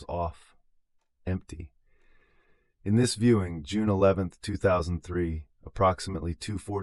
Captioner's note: gasps